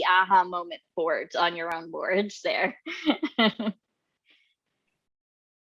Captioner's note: laughs